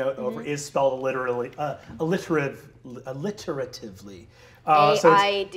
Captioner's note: stuttering